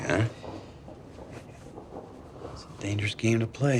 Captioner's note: thunder rumbles